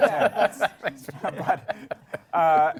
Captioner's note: laughter